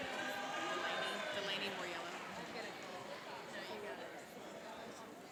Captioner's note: cheering and applauding